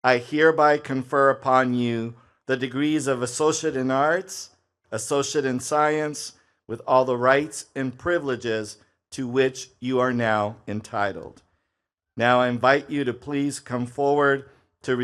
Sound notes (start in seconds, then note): none